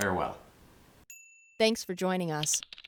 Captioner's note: bell rings